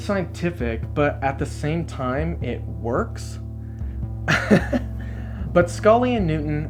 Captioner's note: laughs